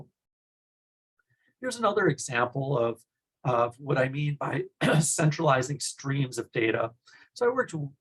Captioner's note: cough